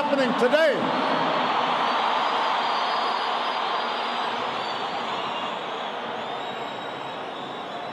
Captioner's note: applause